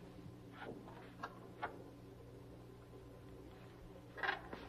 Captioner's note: door opening